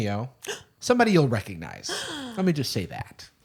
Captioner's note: gasps; gasps